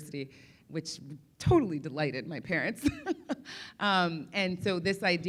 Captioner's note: laughs